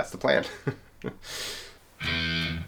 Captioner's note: laughs; intense guitar music